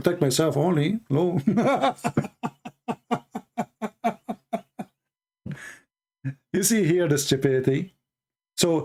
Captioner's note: Ketawa